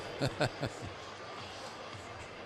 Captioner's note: laughs